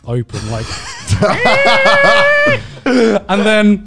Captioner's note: laughing